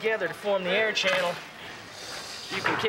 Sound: none

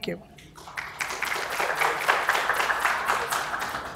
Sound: applause

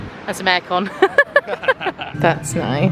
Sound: both laughing

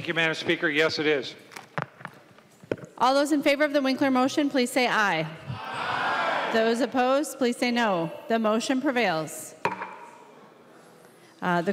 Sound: chorus of ayes

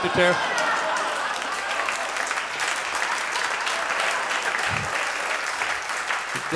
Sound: audience laughs and applauds

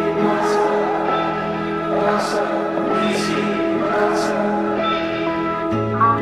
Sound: chanting in foreign language

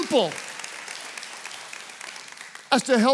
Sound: congregation applauds

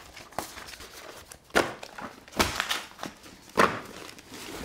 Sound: papers shuffling

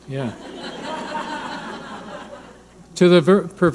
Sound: audience laughing

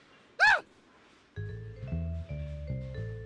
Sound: gasps

